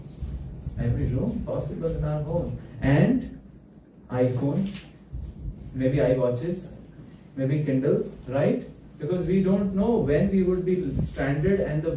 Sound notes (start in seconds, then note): none